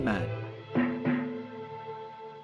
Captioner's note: clang clang